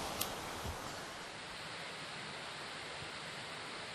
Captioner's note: water rushing